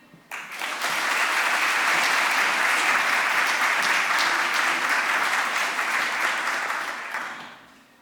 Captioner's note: applause